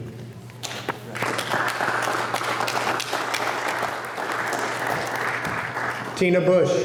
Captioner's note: applause